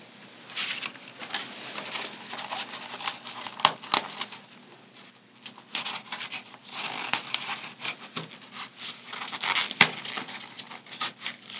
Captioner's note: packaging creaks and squeaks